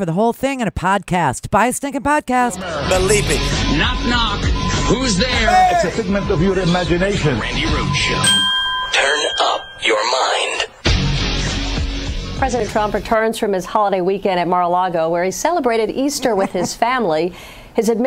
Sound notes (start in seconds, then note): 9.0 bell